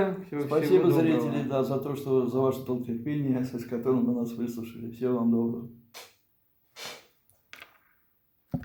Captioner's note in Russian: фыркает